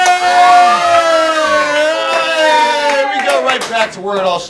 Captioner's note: red cheers